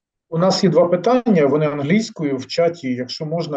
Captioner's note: non-english speech